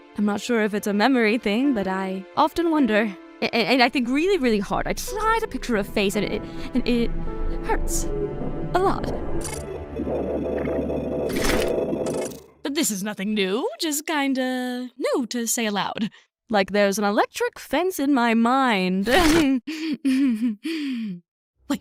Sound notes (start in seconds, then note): 8.8 robotic glitching; 20.0 laughs